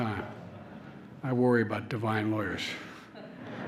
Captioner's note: laughter